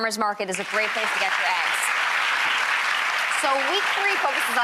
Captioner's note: clapping